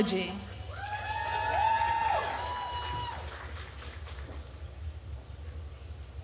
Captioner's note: attendees cheering and applauding